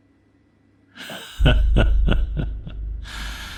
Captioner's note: laughing